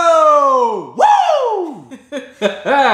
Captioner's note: laughter